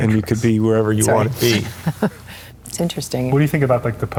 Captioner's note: chuckles